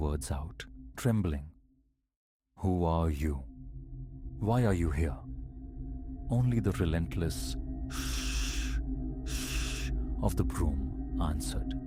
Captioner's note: shhh-shhh